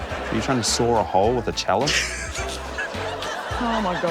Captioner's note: laughs